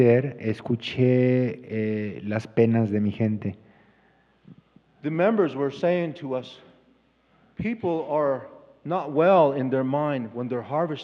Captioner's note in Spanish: Expositor habla en inglés